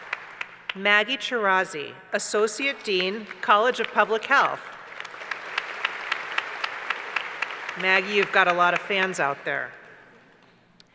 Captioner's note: applause; applause